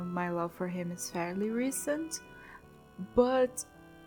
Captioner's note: none